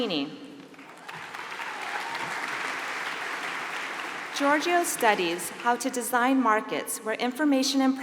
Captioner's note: applause